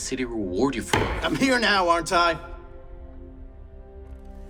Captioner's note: slams tool on table